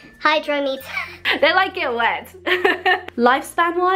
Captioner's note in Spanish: risas